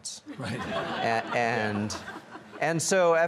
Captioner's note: audience laughs